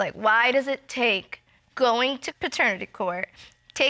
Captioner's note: sniffles